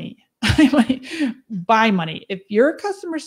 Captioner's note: laughs